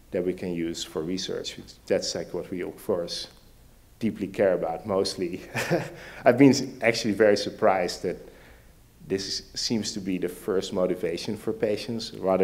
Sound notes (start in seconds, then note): 5.5 laughs